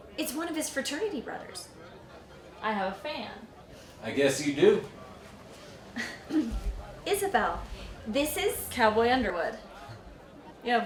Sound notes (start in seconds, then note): 5.9 Isabel chuckles; 6.0 Elizabeth clears throat